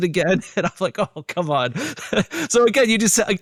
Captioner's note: laughs